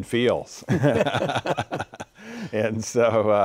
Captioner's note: both laughing